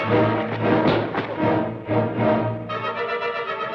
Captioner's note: thud